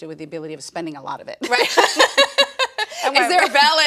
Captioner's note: laughs